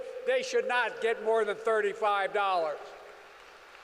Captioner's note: applause